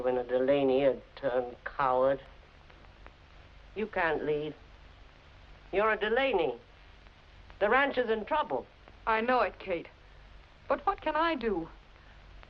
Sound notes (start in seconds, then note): none